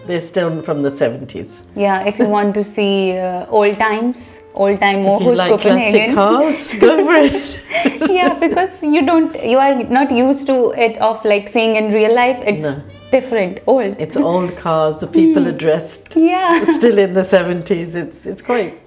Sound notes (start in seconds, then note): 6.9 laughs loudly